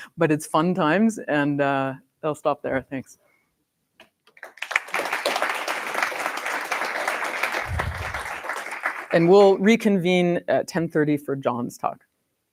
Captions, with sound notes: But it's fun times. And I'll stop there. Thanks. [APPLAUSE] And we'll reconvene at 10:30 for John's talk.